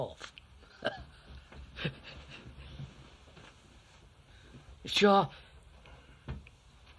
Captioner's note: laughs